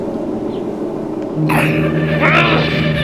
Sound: growling

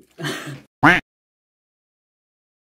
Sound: laugh; quack

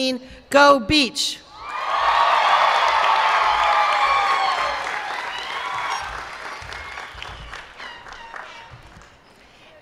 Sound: applause

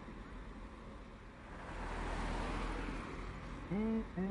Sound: sound of traffic passing

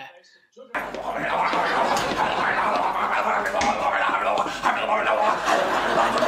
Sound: utterings

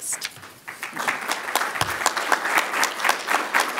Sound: clapping

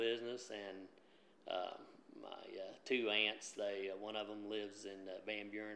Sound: none

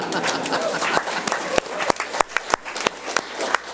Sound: audience applauds

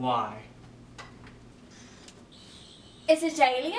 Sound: sonic buzzing

